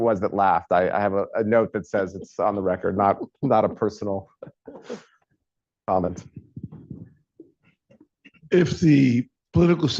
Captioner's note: laughter